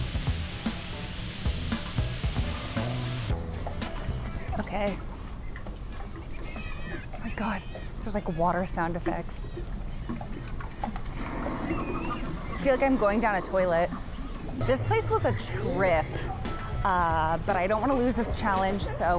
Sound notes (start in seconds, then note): 5.3 water sploshing; 11.3 birds squawking; 11.3 water swooshing